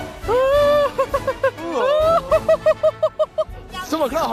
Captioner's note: hohohohoho